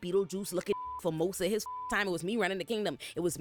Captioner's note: beep